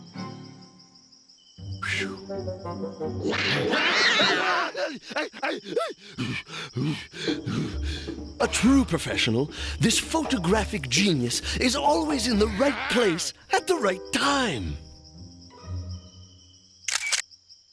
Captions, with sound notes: PHEW. (cat screeching) (whimpering) (hyperventilating) A TRUE PROFESSIONAL, THIS PHOTOGRAPHIC GENIUS IS ALWAYS IN THE RIGHT PLACE AT THE RIGHT TIME.